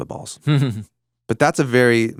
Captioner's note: chuckles